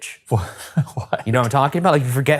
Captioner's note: laughing